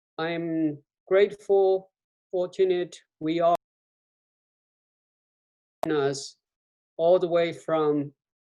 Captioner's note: audio out